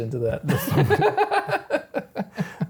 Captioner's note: laughing